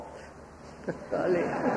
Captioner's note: laughter